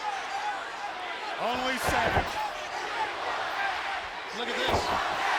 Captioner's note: audience chanting